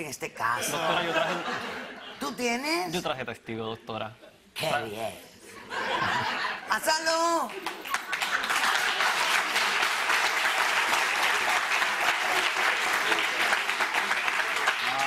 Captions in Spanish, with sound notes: MÁS TIENE TESTIGOS EN ESTE CASO? [RISAS] ¿TÚ TIENES? YO TRAJE TESTIGOS, DOCTORA. QUÉ BIEN. [RISAS] PÁSALO. [APLAUSOS]